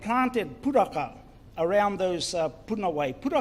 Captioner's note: speaks in foreign language